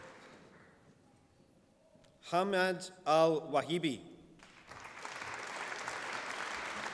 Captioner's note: applause